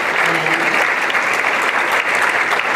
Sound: applause

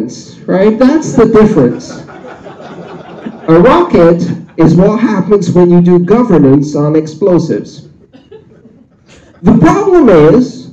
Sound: laughter

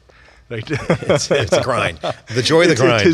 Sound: laughing

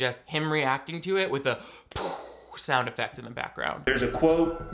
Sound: exhaling

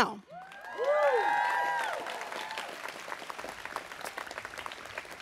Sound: students cheering

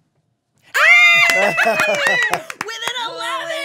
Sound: cheering

